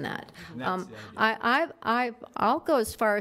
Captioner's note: mumbles